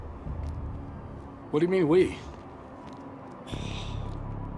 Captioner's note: sighs